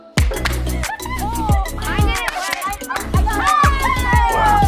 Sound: poppers pop

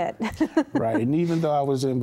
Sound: giggling

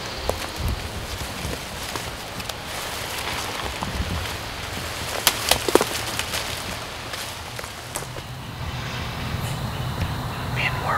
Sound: crunching leaves

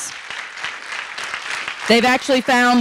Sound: audience applauding

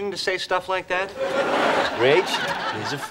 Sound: audience laughing

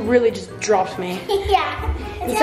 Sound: giggles

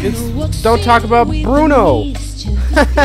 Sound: painful laugh

